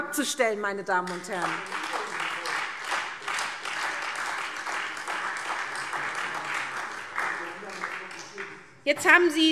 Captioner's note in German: Beifall SPD und Freie Demokraten